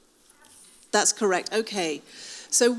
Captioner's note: woman speaking faintly